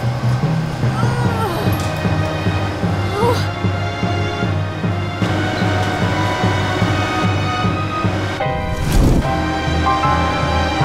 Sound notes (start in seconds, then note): 0.9 grunting; 5.2 heavy motor moving; 8.6 fiery rumble